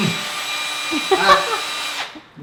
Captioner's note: laughs